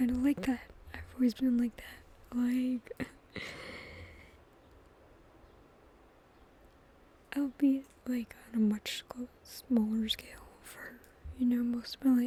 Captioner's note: laughs